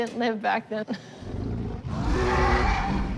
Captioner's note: roars